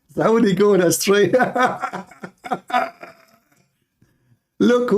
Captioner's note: Ketawa